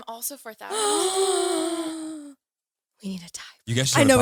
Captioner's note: all gasping